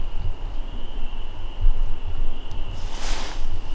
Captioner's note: insects chirp